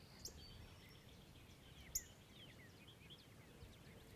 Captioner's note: birds tweeting